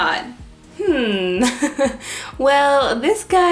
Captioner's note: laughs